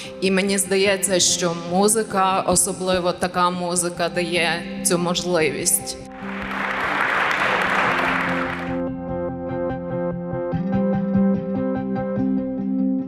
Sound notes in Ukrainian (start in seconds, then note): 6.1 Бурхливі оплески